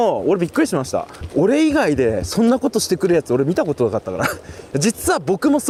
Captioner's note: laughs